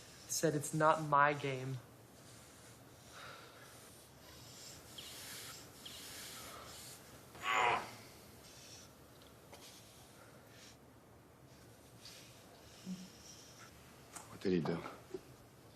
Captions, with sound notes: - I said it's not my game. (grunting) - What did he do?